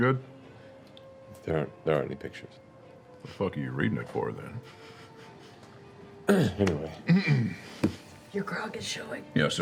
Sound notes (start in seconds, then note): 6.3 clears throat; 7.5 whispers